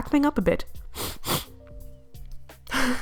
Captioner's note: sniff sniff